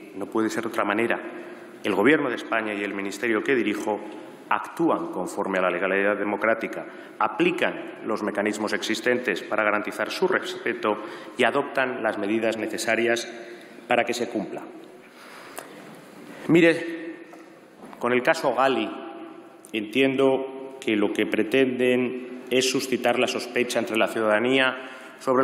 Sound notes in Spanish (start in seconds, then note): none